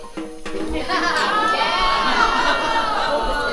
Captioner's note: audience cheers